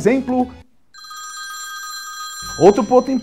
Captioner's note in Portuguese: Telefone tocando de fundo